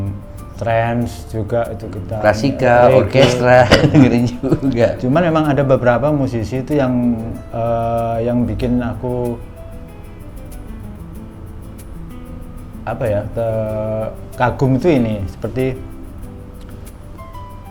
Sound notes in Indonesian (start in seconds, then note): 2.8 tertawa